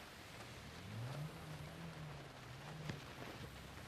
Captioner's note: rain pattering